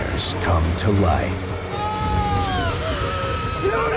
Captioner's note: screaming